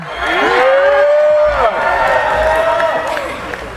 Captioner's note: cheering